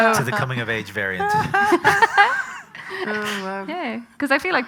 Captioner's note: loud laughter